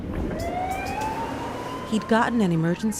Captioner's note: siren blaring